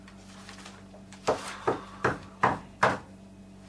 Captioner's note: knocking at the door